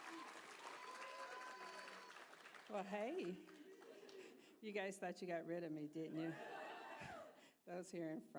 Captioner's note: applause